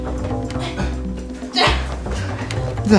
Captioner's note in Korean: 힘쓰는 탄성